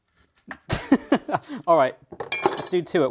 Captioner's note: laughs